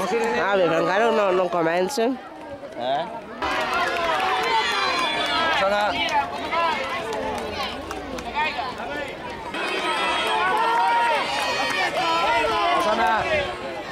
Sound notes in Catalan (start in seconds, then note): 3.1 La gent anima